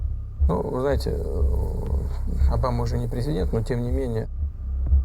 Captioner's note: speaking foreign language